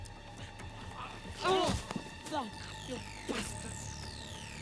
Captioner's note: hotel owner grunts